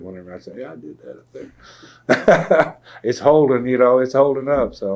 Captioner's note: laughter